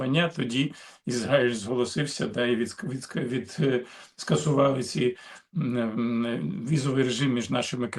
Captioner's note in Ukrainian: сопіння